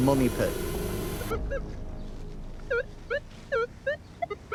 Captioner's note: metal detector warbling